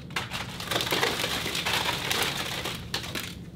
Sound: gentle smacking and clattering

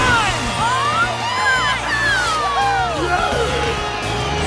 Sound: cheering

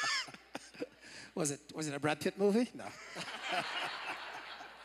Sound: laughter

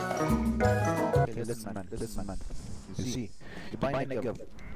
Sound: african accent?; breaths

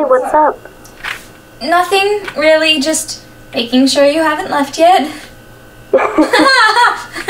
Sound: on phone; Tara laughs, and Quinn joins with forced laughter in response

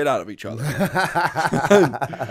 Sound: laughter

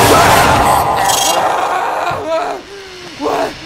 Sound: Jack laughing; filmer shouts

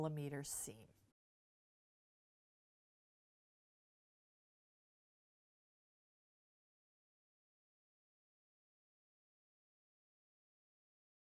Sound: no Sound Present

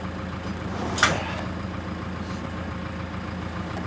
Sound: wood sliding

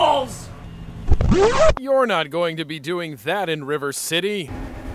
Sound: record scratch

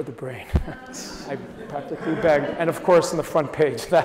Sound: audience chuckles

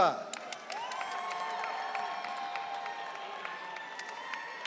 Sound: audience cheering

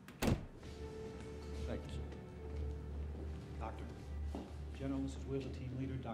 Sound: sound from television

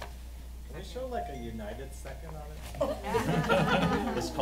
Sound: laughing

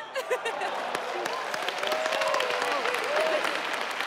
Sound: crowd cheering

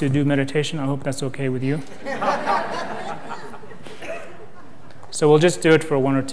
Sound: laughter

